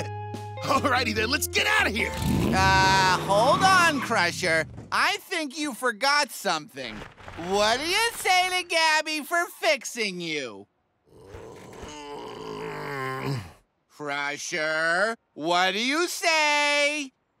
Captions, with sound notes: Alrighty, then, let's get out of here! Uh, hold on, Crusher. I think you forgot something. What do you say to Gabby for fixing you? [groaning] Crusher, what do you say?